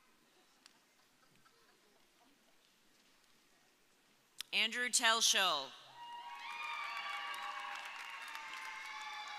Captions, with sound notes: Andrew Telschow. (audience cheering)